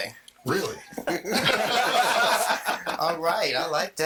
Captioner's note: all laughing